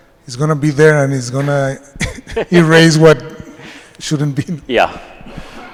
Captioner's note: chuckles